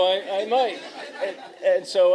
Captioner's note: laughter